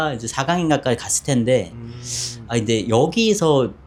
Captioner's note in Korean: 콧방귀